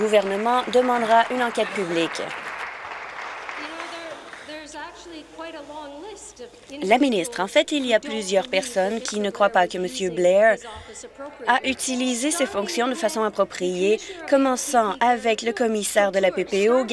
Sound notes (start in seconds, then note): 3.1 applause